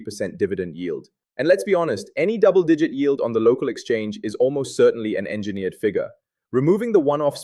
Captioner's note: sarcastic